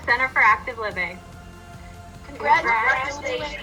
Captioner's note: speaker hollering